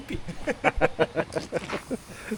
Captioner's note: laughing